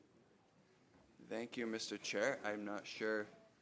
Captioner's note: speaking French